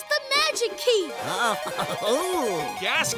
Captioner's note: giggling